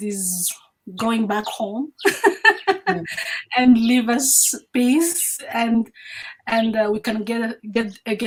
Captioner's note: laughs